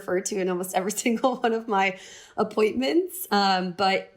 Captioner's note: laughter